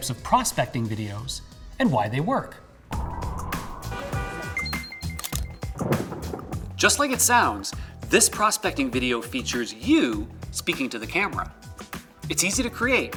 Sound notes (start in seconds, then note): 3.1 upbeat music; 3.9 car horn beeping